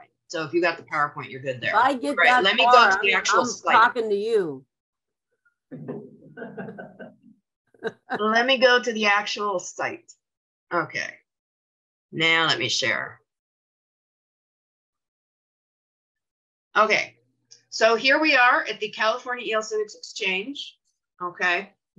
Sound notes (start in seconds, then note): 5.8 laughs